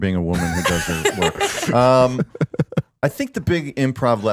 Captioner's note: all laughing